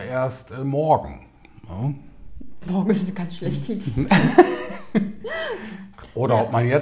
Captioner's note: both laugh